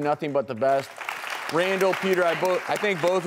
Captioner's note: clapping